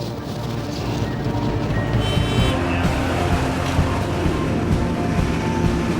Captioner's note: engine roaring